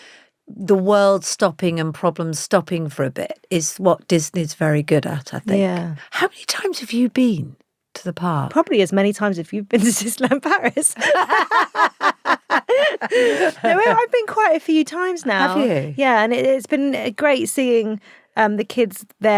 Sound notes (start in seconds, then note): 9.8 both laughing